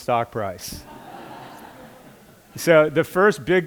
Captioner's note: laughter